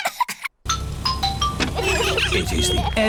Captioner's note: horns honking; trumpets